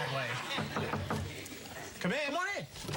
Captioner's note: knock on door